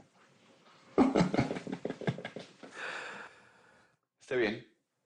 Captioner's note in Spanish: Risas